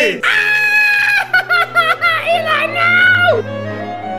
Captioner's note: screams